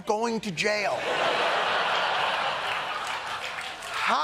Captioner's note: laughter